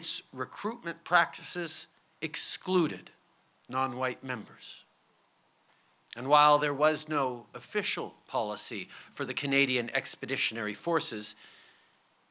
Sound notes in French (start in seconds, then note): none